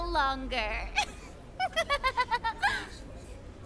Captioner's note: laughing